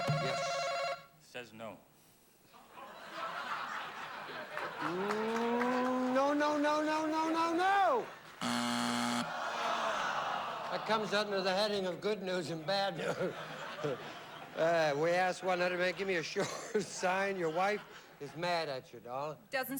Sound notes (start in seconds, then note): 8.4 buzzer